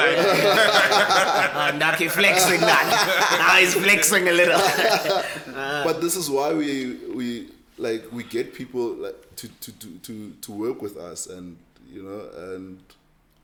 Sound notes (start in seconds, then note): 0.0 everybody laughs